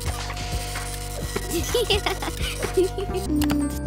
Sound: giggling

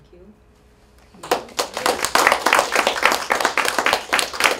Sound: applause

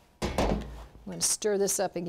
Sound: metal clanking

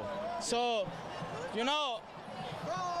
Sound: cheering

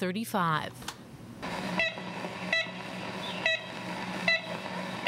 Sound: bird call

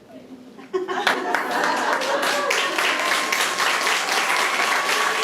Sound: audience applauding

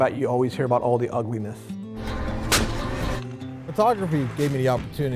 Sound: firing

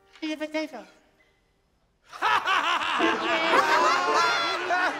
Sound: laughter

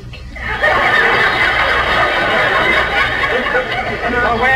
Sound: audience laughs

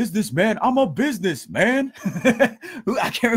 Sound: laughing

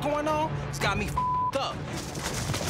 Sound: beep

